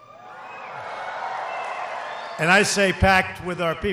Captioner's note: applause